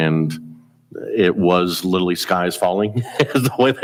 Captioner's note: chuckles